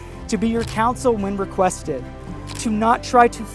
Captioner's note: camera shutter clicks through photos